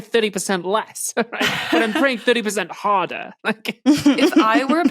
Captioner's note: guests snickering